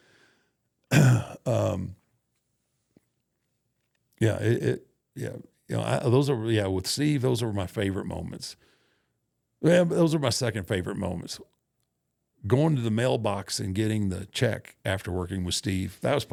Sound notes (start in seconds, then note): 0.9 Undertaker clears throat